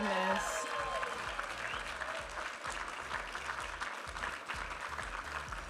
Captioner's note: audience applauding and cheering